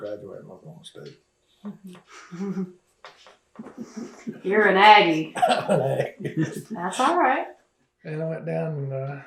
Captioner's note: laughs